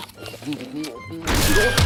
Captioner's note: apples crunching